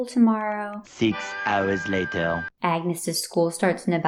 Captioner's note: whistle